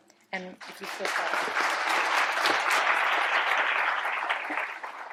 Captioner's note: applause